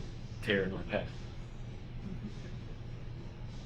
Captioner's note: chuckles